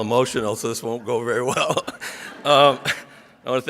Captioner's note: laughs